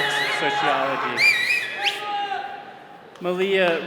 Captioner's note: attendee whistling